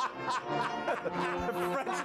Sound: laughter

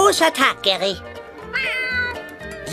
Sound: <i> meows</i>

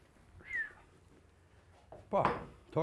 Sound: whistles

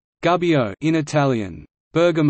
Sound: in Italian

